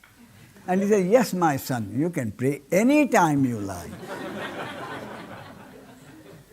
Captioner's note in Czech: smích